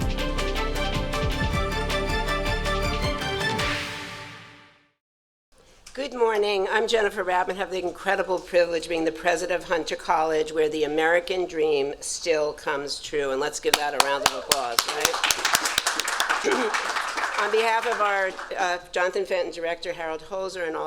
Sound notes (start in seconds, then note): 13.7 clapping; 15.5 audience clapping